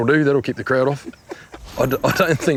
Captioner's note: laughter